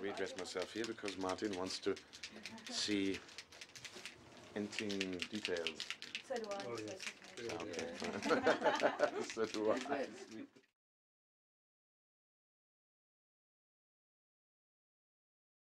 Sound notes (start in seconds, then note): 7.8 laughter